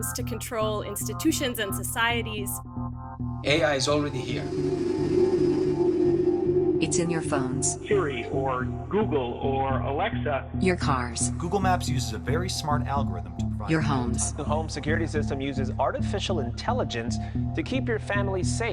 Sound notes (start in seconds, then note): 6.8 soundbite of archived recording; 11.1 soundbite of archived recording